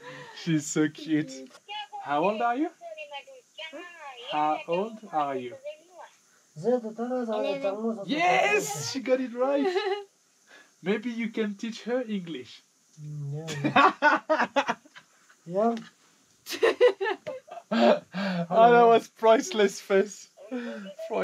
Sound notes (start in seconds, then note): 3.3 hmmm